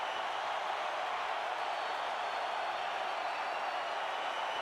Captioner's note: crowd cheering continues